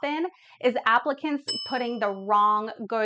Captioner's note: bell ringing